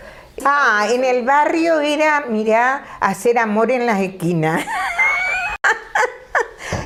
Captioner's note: she laughs